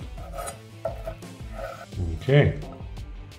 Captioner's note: knife chopping